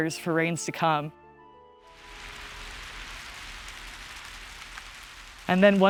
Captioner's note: thunderclap and rain spattering